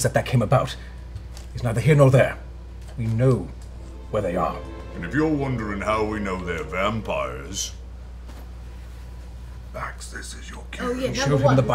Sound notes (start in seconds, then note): 8.7 whispering